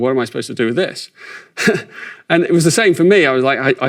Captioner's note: chuckles